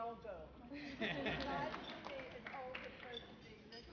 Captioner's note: laugh